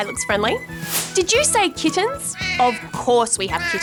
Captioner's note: miaowing